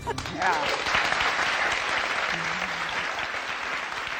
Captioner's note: audience cheering